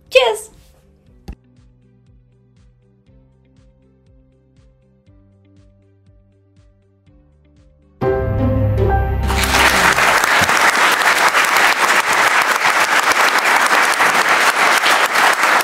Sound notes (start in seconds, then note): 1.4 slow upbeat music; 9.2 audience applauding